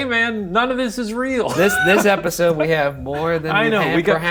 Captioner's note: laughs